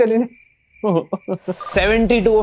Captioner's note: laughing